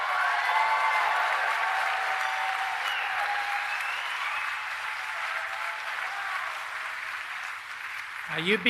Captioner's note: applause